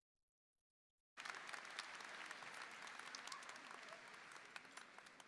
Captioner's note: audience applauding